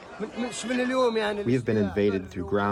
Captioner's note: through translator